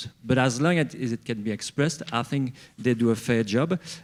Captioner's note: none